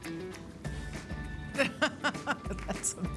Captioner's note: laughs